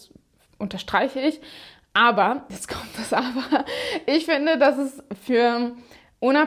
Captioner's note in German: gelächter